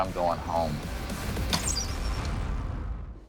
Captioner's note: arrow whistles